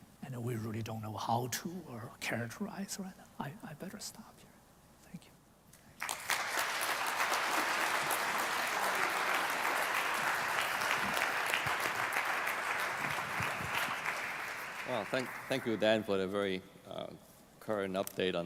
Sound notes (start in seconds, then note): 5.9 applause